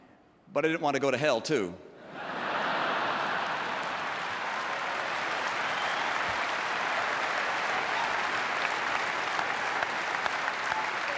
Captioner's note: laughter and applause